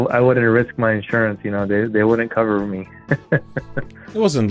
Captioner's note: laughs